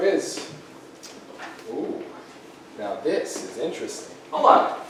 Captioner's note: flipping through journal